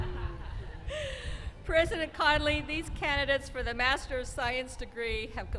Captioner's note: laughing